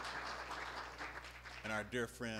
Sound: applause

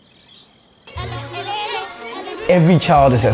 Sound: birds chirping; children chattering; inspiring music

